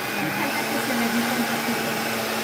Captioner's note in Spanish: ruido de licuadora